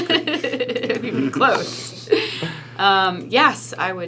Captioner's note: laughing